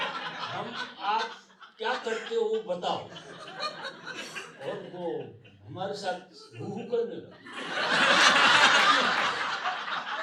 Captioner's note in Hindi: हंसी; हंसी